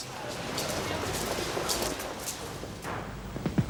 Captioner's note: debris clattering; guns firing